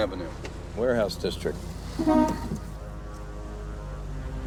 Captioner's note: horn honking; dramatic music